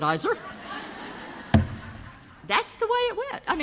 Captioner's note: audience laughs